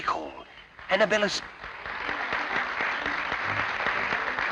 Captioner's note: applause